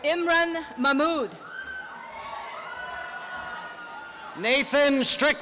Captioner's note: applause and cheering